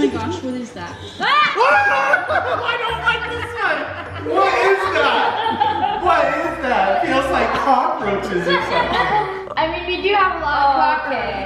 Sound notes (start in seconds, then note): 1.8 yelling; 5.8 laughing